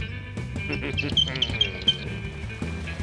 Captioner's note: grunts and giggles